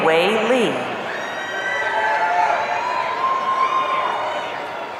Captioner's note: audience cheering